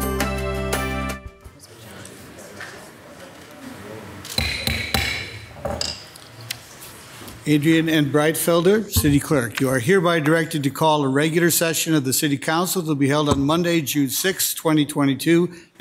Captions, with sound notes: (people softly chattering) (gavel loudly knocking) - Adrienne N. Breitfelder, City Clerk, you are hereby directed to call a regular session of the city council to be held on Monday, June 6th, 2022,